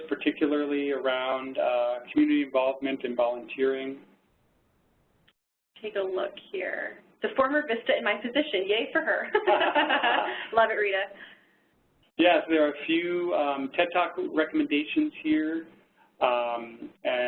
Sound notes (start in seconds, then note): 9.3 laugh